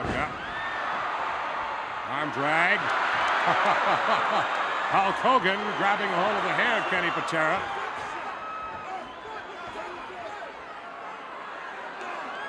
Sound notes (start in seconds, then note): 3.4 chuckles